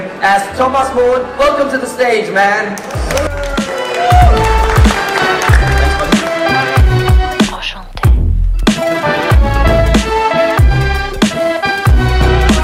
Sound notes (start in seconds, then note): 2.8 audience applause; 6.7 accordion hip-hop music